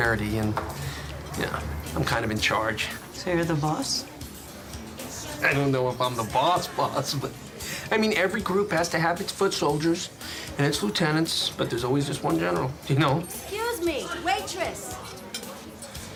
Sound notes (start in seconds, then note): 5.1 chuckles